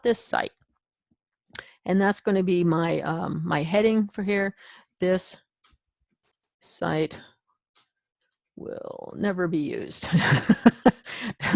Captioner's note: chuckles